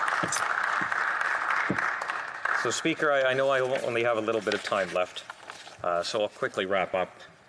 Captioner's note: applause